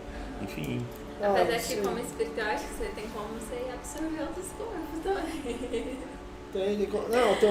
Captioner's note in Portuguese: Risos